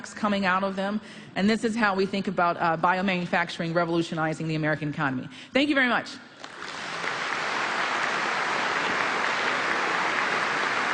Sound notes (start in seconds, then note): 6.4 applause